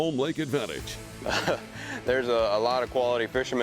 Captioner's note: laughs